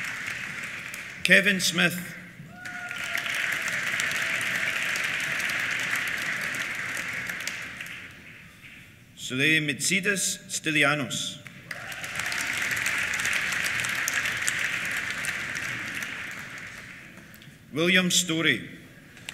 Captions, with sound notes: Kevin Smith. (CHEERS) (APPLAUSE) Souleimetzidis Stylianos. (CHEERS) (APPLAUSE) William Storrie.